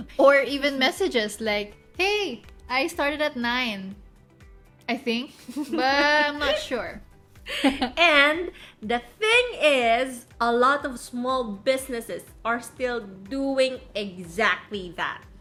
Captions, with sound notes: Or even messages like, ‘Hey, I started at 9… I think?’ (laughs) 'But, I am not sure' (laughs) And the thing is… a lot of small businesses are still doing exactly that.